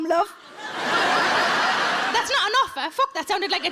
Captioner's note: audience laughs